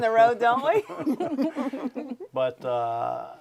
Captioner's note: everyone laughing